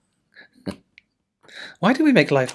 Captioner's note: chuckling